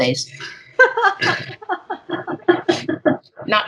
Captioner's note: both laughing